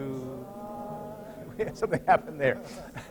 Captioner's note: laughter